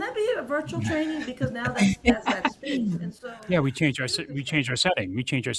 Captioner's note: panelists laughing